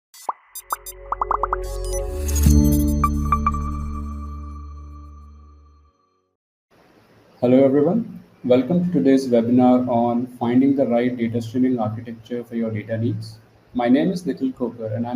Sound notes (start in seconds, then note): 0.2 electronic tones; 0.2 sparkling, popping